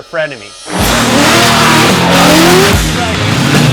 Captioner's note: car engine roars; dramatic music